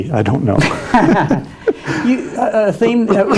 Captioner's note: both laughing